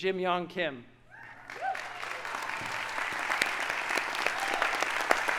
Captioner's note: audience applauding